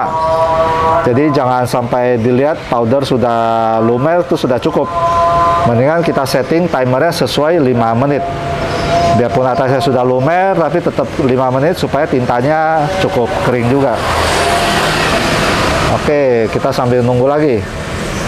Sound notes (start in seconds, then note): 0.2 praying sound; 14.0 motorcycle noise; 18.0 motorcycle noise; 18.0 praying sound